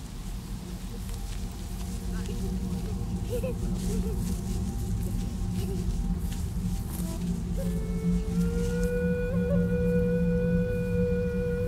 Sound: celtic panpipe music; children laughing

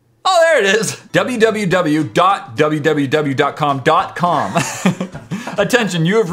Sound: laughs

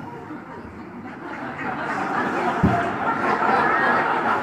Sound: audience laughs

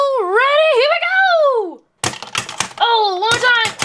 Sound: toy rattles

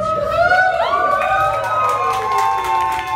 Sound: cheering and applauding

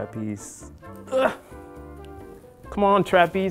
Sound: grunts

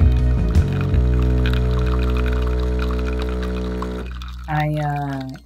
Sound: coffee machine buzzing and coffee dripping

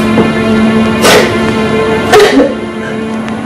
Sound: sniffles, cries

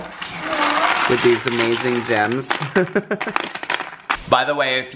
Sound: laughs

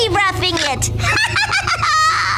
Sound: laughing

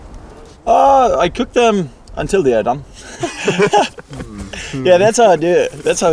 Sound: laughs

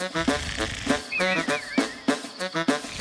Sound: snoring

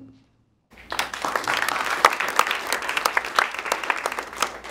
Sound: applause

